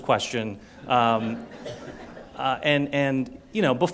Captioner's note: laughter